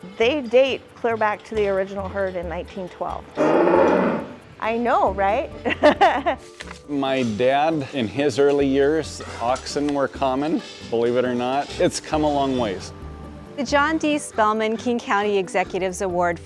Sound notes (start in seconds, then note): 3.3 cow mooing; 5.6 laughs